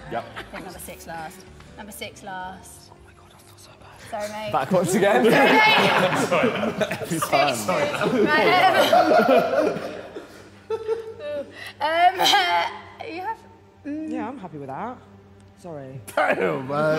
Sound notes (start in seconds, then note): 3.2 someone whispers; 4.6 Sidemen laughing